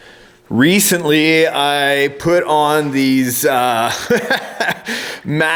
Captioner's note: laughs